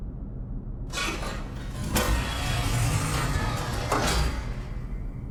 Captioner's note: elevator door opening